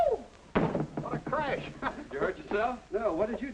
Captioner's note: chuckles